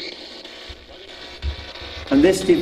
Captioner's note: static buzzing